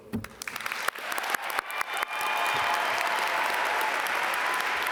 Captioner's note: audience applaud